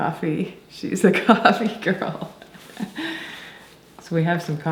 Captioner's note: laughing